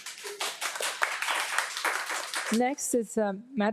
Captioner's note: audience claps